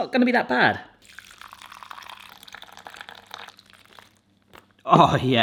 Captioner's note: liquid trickling